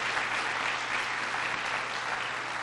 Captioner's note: applause